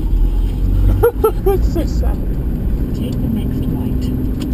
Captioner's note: laughs to self